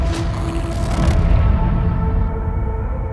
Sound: static

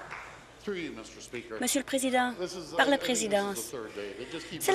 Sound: applause

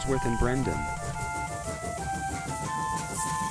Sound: chuffing

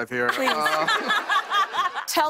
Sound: laughter

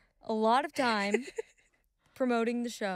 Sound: giggling

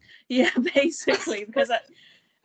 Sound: both laugh

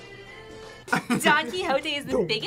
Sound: laughs

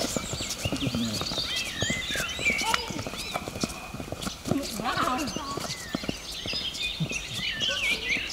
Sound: footsteps

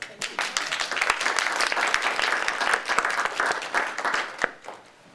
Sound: audience applauding

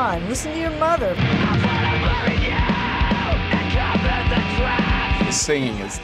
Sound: shrieking

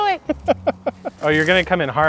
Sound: laughing

